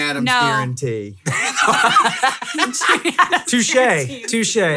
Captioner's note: laughing